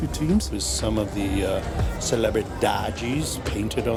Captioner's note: in Portuguese